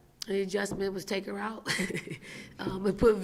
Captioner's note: laughing